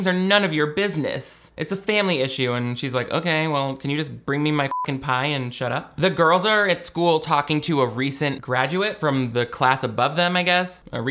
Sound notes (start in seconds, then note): 4.6 beep